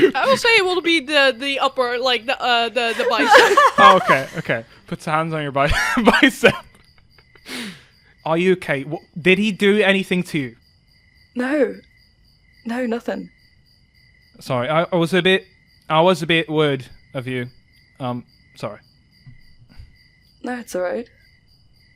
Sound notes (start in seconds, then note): 2.8 laughing; 2.8 laughter